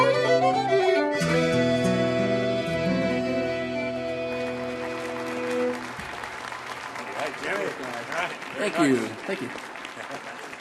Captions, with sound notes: (audience applauding) Thank you, thank you.